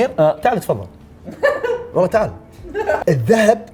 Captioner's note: laughter